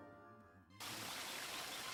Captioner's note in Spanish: aves cantando